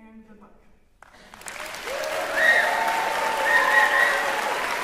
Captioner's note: cheering, applause